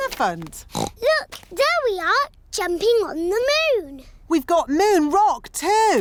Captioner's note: oinks